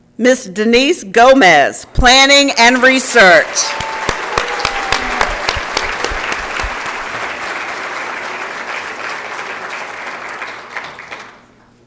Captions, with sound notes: Ms. Denise Gomez, Planning and Research. [ Applause and Cheering ]